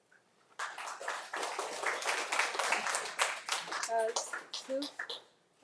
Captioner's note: audience applauding